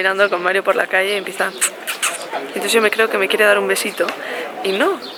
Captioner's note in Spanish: sonido de beso